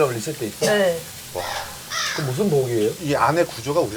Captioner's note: sound effect of getting annoyed while listening